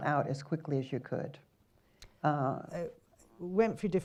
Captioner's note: silence